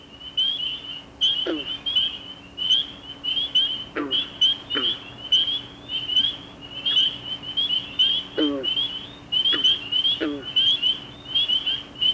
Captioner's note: nature sounds